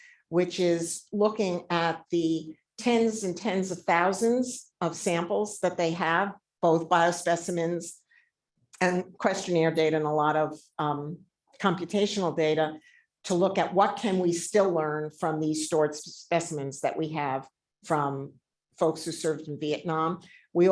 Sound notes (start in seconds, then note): none